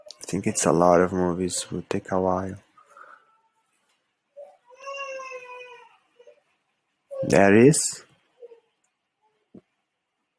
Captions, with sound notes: I think it's a lot of movies will take a while. (child crying) That is,